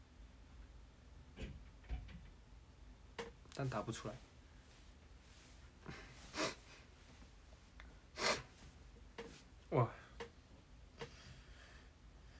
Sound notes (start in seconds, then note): 5.8 sniffle